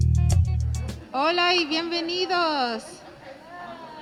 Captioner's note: speaking spanish